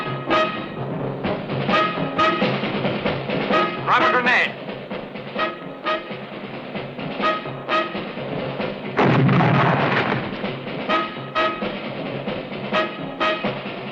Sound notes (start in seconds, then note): 8.9 explosion